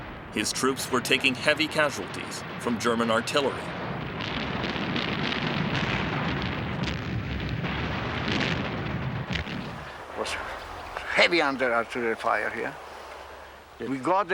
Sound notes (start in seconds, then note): 5.0 cannons firing